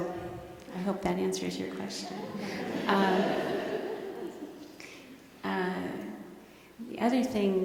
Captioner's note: laughter